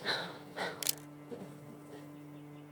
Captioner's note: camera click